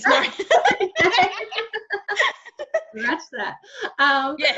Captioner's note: laughing